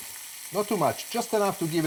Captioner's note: sizzling loudly